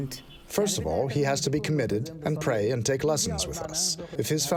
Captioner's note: through translator